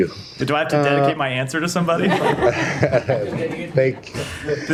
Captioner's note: laughter